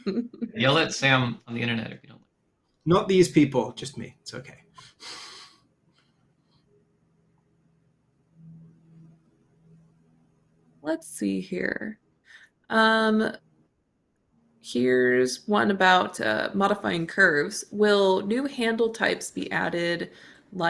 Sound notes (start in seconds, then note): 4.9 chuckles